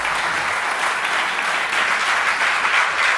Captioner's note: applause